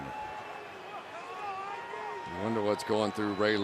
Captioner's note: arguing